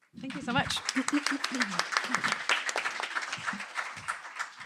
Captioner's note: applause